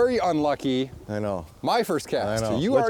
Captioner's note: voiceover